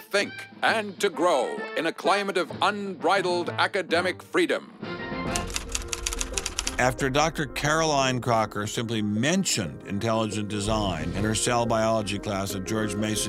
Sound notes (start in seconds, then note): 5.3 typewriter clacking